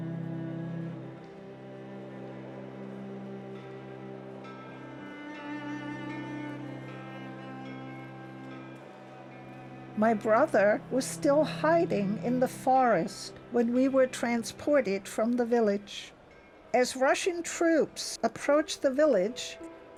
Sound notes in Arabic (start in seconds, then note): 10.0 هبوب الرياح; 10.0 رنين الجرس